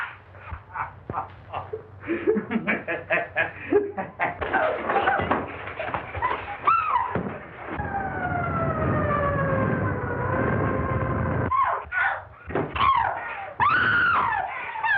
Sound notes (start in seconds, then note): 0.0 laughing; 7.7 police sirens wailing; 12.7 screaming